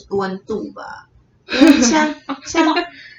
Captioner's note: laughter